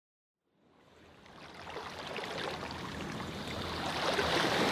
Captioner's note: water lapping